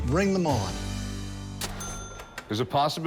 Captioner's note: cash register dings